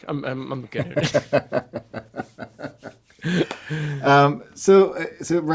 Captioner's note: laughs loudly